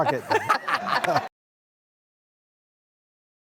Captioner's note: laughing